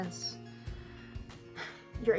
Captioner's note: sigh